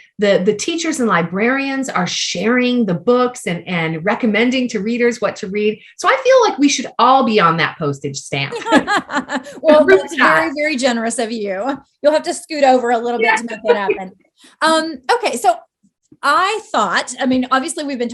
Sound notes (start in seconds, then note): 8.5 laughter